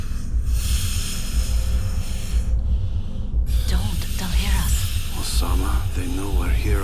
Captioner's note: heavy breathing